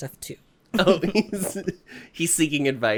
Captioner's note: giggles